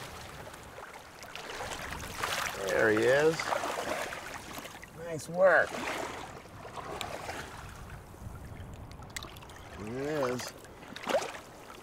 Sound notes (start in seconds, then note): 1.0 fish splashing